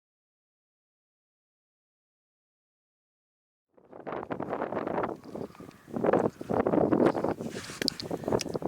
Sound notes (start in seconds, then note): 3.7 wind blowing